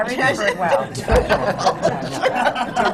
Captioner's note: laughter